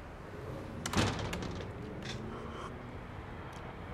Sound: door closing

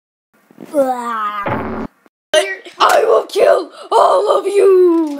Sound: die sound

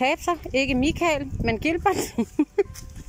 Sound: laughs

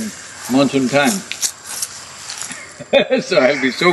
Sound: laughs

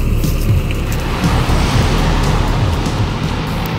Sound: vehicle groaning

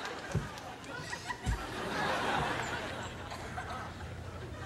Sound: crowd laughing

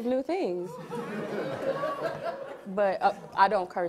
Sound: audience laughs

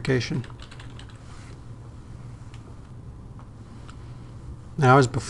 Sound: typing

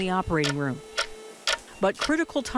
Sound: clock ticking faster

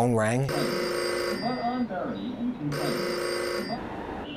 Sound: telephone rings

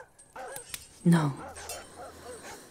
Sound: in quiet disbelief

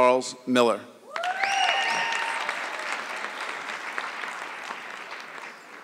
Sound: audience clapping

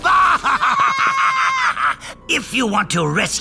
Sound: screaming

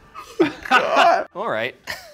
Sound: all laughing

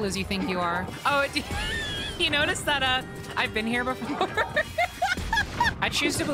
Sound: laughter

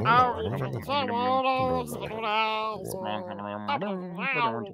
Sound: panelist murmuring

